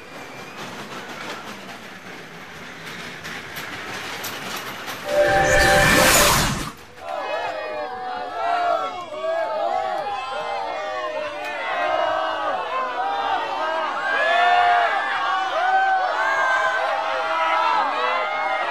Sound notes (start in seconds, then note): 7.0 all jeering